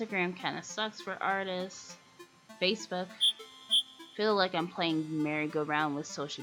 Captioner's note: crickets chirp